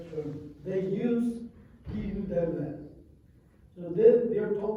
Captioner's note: non-english